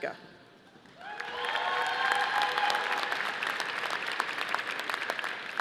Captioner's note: audience applauding